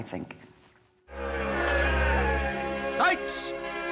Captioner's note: knights cheering